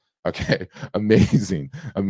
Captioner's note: laughing